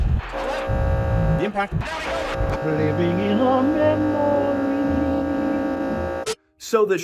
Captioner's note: grainy sound; instrumental music plays